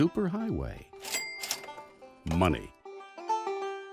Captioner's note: cash register rings